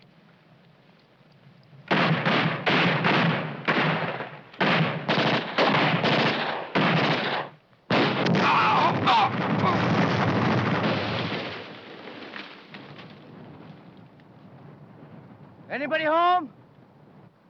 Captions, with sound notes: (men screaming) (bomb exploding) - Anybody home?